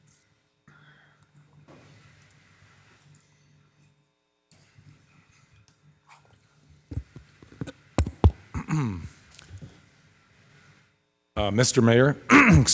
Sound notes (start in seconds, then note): 8.0 finger tapping; 12.3 clears throat